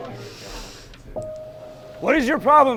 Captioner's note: recruit inhales